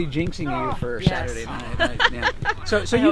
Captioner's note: laughs